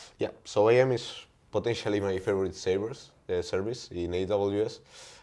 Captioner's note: none